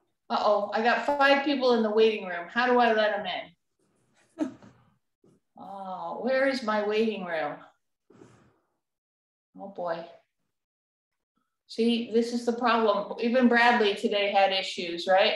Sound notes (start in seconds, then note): 4.3 laughter